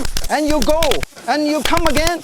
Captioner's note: fapping noises